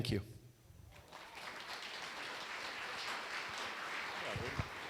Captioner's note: applause